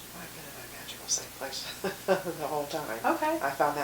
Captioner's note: laughing